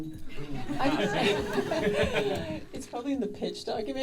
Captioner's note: audience laughing